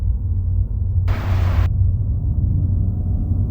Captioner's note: train whooshing